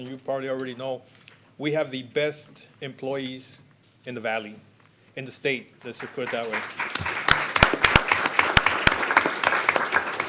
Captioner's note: applause